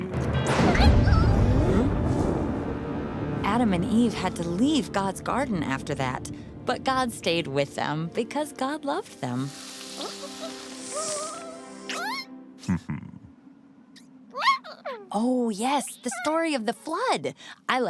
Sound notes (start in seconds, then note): 0.3 thunderstorm noises; 9.9 humming noises